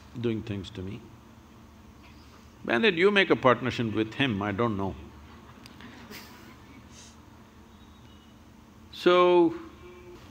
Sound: laughs

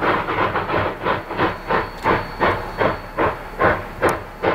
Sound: heavy chugging and slipping

